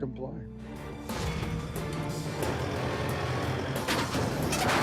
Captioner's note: intense music; metal clanks